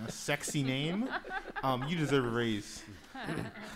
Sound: laughing

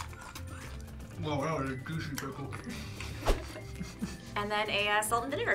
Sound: laughs

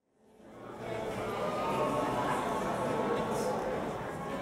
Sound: audience chattering

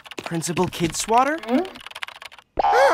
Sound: gasps

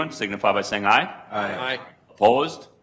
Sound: multiple voices

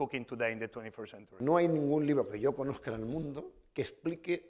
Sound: speaking spanish

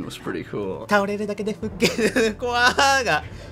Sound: speaking Japanese

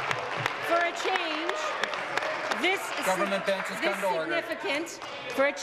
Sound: applause

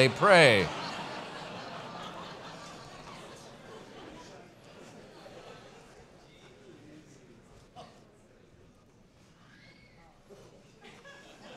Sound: pause

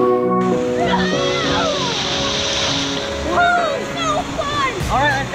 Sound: screaming

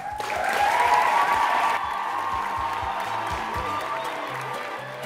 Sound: crowd applauds and cheers loudly

